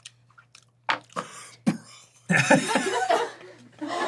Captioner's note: breathless